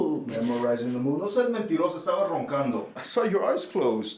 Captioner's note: Spanish